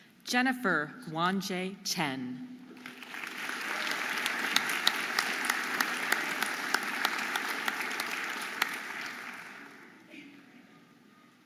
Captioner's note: audience applauding and cheering